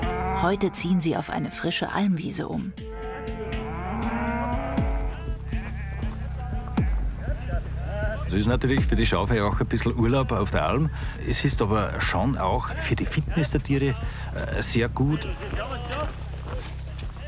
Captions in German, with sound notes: Heute ziehen sie auf eine frische Almwiese um. (Blöken, Lockrufe) Es ist natürlich für die Schafe ja auch ein bisschen Urlaub auf der Alm. Es ist aber schon auch für die Fitness der Tiere sehr gut.